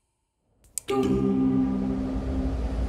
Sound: system shutting down

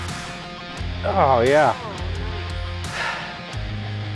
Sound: sighs

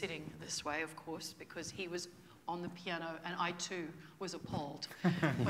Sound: laughter

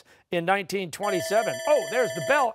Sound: bell rings

